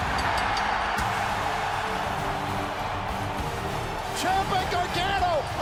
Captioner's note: crowd cheering; bell ringing